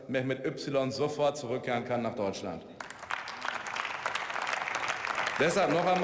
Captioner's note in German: Beifall